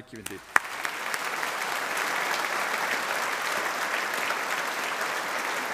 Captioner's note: audience applauding